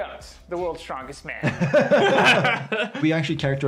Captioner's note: laughing